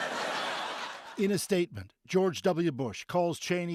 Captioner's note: laughter